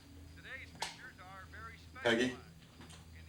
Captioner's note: sound from tv continues